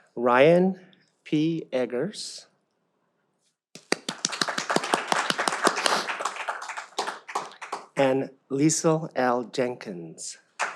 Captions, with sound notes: Ryan P Eggers (all applaud) and Liesl L. Jenkins.